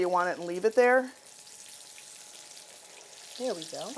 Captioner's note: oil sizzling